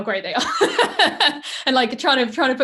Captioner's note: laughs